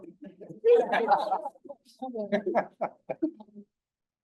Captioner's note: all laughing